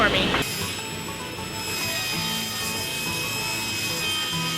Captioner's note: saw humming